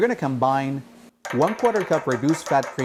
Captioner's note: spoon banging